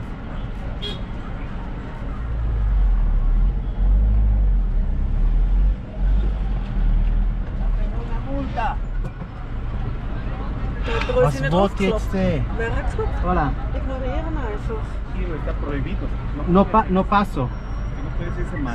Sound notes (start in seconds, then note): 7.7 passerby in Spanish; 9.3 knocking; 11.0 in Swiss German; 14.9 in Spanish